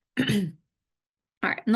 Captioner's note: clears throat